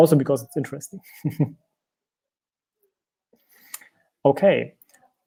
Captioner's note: laughing